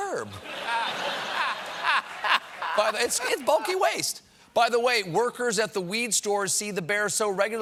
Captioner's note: laughter